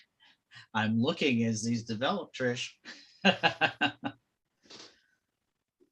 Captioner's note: laughs